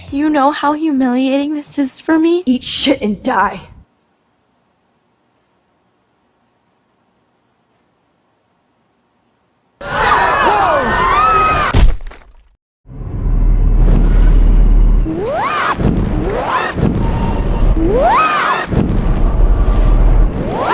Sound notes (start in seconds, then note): 9.8 screams of terror; 15.1 screaming; 17.9 screaming